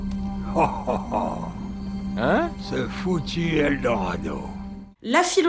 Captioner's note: laughs